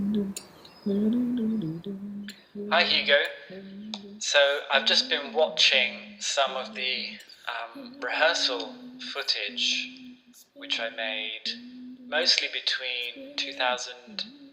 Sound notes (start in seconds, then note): 0.0 hums tune softyly; 2.5 augusto, on voicemail recording